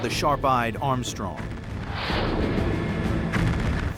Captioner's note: explosions